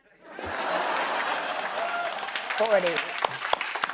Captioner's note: laughter